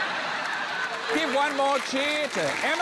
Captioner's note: laughter